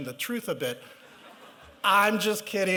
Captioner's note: laughter